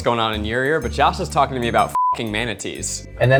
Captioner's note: beeping